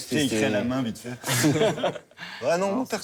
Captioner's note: laughs